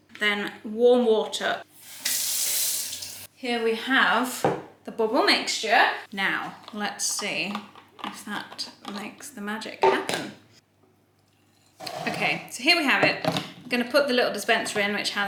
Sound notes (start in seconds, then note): 1.8 faucet running